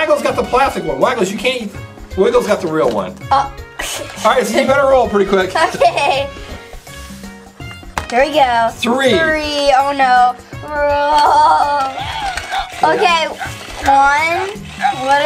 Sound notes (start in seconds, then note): 11.6 Assistant makes an Anxious noise